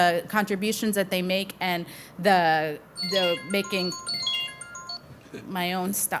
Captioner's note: phone chiming